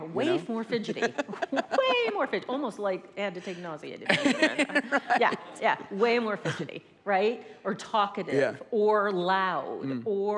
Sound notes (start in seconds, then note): 0.7 laughs